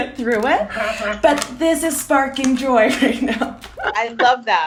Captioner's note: laughs